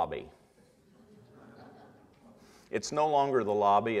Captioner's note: audience laughter